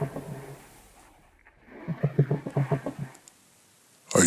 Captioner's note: low rumble